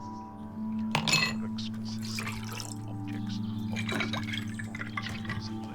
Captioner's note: ice cubes rattle